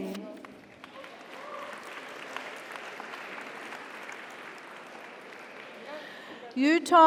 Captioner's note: audience applauds; audience cheers